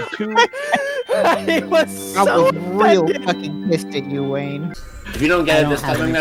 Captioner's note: mid-laugh; laughing